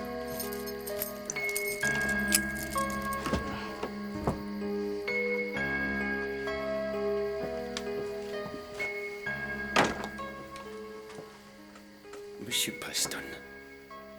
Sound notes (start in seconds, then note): 9.7 door closes